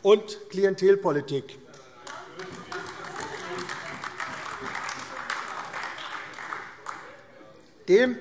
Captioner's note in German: Beifall AfD - Zurufe CDU und BÜNDNIS 90/DIE GRÜNEN